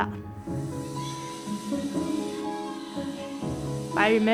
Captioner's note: water splashing